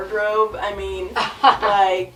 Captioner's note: laughs